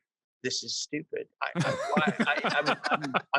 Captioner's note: all laugh